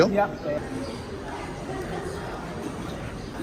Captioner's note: soft laughter